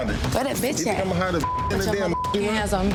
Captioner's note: beep